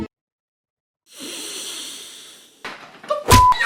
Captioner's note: heavy breathing